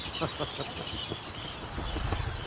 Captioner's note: laughs